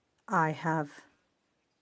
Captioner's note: speaking French